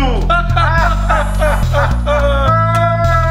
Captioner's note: Laughing